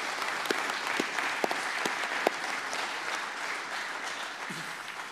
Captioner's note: applause